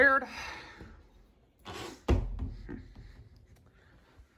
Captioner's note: door closes